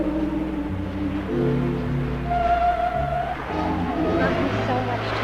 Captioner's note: waves crashing